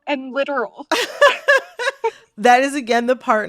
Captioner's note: laughter